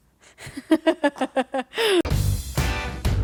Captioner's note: scoffing; laughing; upbeat music